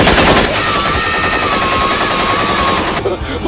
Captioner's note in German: Die Geräusche von Goombas und Koopas, die vor Schmerz schreien